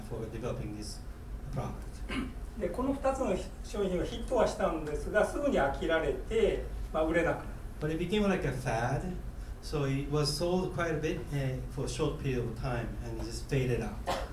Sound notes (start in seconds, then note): 2.6 speaking in foreign language